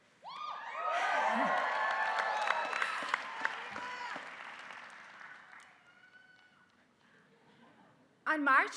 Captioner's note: applause